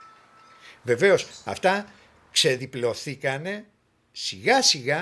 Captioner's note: speaking in Greek